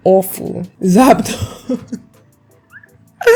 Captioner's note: laughing